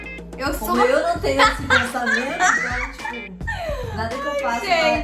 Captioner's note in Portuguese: Risos